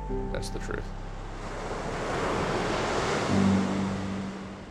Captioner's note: waves rushing; light music